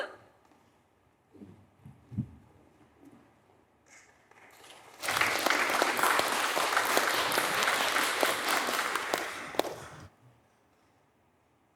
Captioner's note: audience applauds